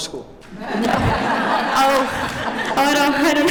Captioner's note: laughter